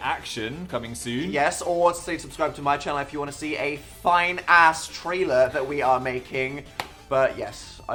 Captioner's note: claps once